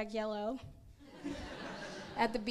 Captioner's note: crowd laughs